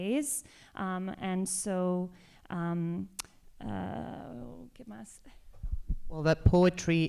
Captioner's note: spanish